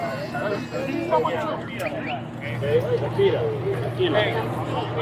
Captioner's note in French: conversation indistincte continue